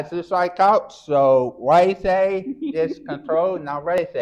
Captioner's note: chuckles